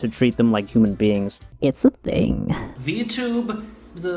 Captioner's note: with vocal fry